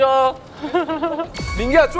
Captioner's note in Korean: ㅎㅎㅎㅎ